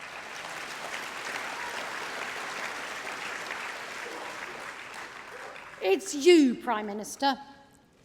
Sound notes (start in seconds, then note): 4.8 applause